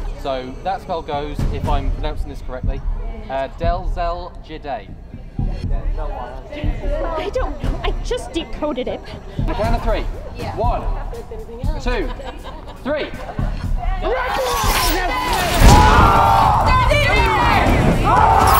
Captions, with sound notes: So that spell goes, if i'm pronouncing this correctly: Del Zel Jiday I don't know. I just decoded it. On the count of 3. 1...2...3! RAGNARA! DEL ZEL JIDAY *SCREAMS*